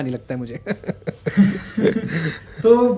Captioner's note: laughs